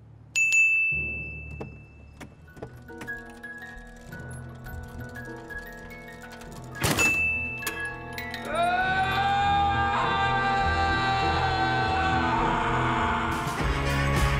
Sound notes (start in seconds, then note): 0.3 dinging; 8.5 screaming